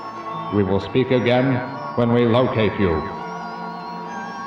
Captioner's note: robotic Voice